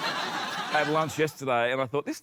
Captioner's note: laughter